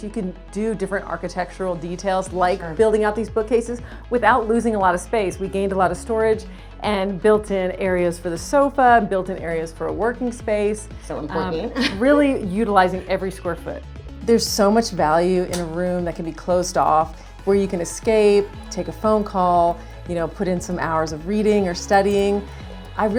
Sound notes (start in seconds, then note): 11.6 chuckling